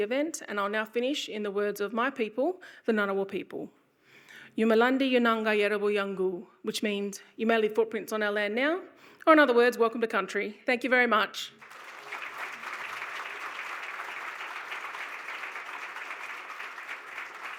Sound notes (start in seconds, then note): 4.6 speaking in Ngunnawal language; 11.6 audience applauding